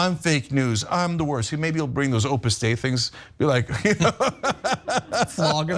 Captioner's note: laugh